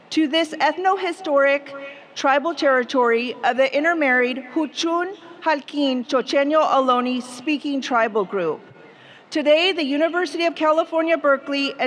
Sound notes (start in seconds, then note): 5.4 speaking foreign language